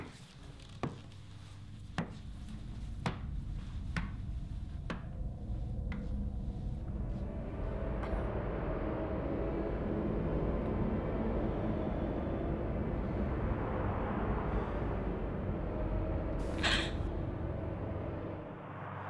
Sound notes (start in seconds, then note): 0.1 footsteps Fade Away; 8.2 dark Ominous Sounds